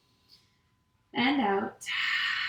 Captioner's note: exhales